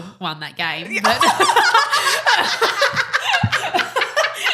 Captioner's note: both laughing